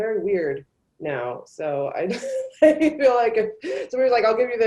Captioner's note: laughs